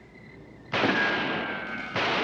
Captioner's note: guns firing